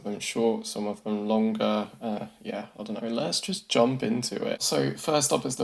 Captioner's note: in Philip DeFranco voice